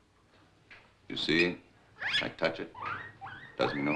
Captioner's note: guinea pig squeaking